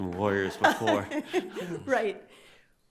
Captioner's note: laughs